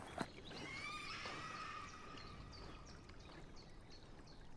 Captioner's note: creature shrieking